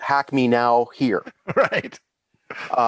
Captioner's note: chuckles